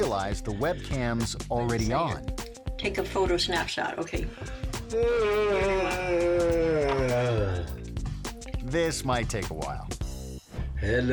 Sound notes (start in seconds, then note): 4.8 grandpa yawning